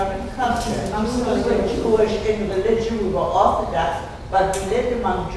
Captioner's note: speaking off mic and muffled